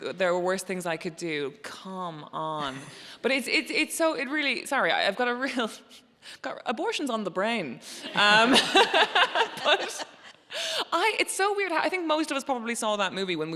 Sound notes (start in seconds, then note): 8.1 laughs